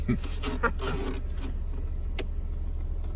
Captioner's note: lauging